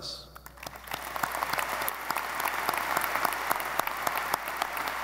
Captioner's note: audience applauding